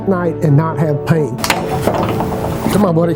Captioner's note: dog leash noise